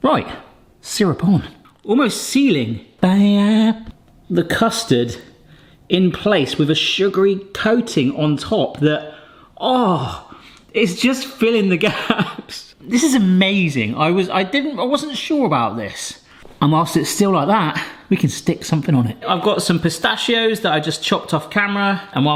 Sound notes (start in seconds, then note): 9.1 gasps